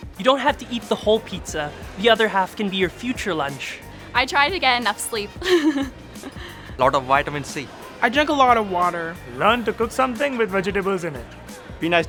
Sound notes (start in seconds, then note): 5.3 chuckling